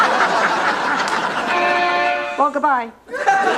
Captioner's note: car Horn